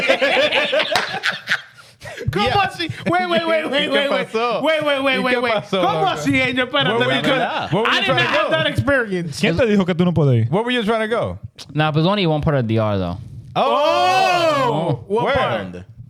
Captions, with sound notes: (Laughing) Wait, wait, wait, wait. Wait, wait, wait, wait. (Speaking In Foreign Language) I didn't even have that experience. What were you trying to go? Nah, but only one part of the art though. Oh! What part?